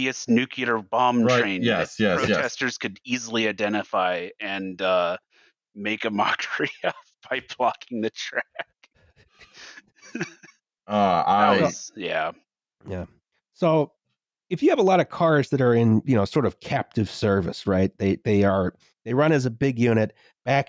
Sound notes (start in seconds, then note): 6.0 laughing